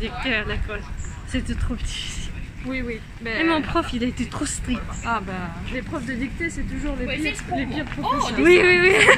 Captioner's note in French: rires